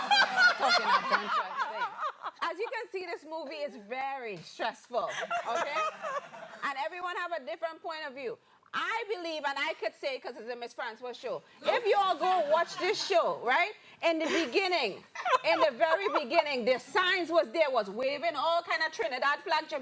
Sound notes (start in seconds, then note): 0.0 laughter; 5.1 laughs